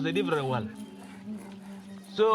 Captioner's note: grinding stone